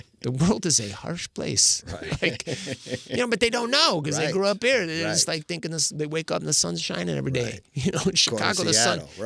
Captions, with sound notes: "The world is a harsh place." (laughing) You know, but they don't know, because they grew up here, and they're just like thinking they wake up and the sun's shining every day. You know, Chicago, the sun. Right, in Seattle.